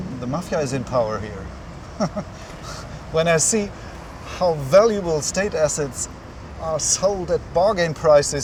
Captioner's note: laughs